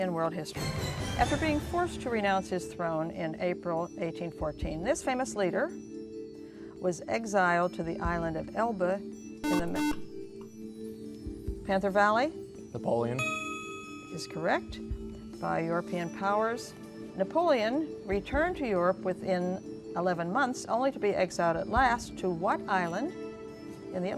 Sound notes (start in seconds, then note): 9.4 buzzer